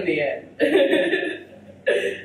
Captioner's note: giggles